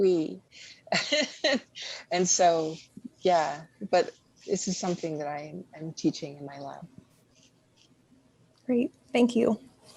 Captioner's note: laughs